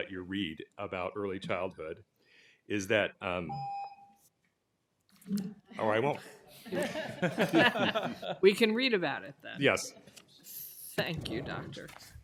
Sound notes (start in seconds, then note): 3.5 timer tone; 6.6 laughter